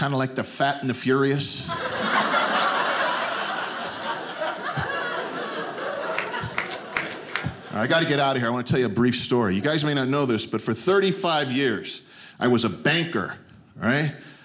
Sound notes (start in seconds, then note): 1.6 audience laughing